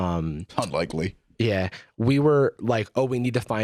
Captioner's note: scoffs